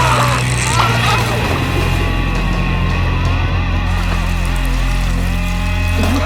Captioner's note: both grunt